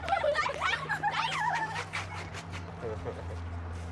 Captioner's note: kids laughter